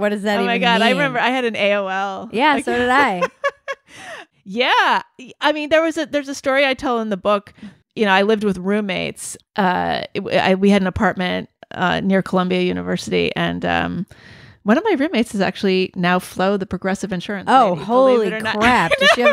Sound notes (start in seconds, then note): 2.6 laughs